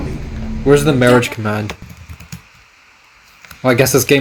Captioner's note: typing